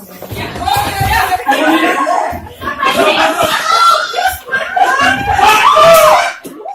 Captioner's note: people screaming and shouting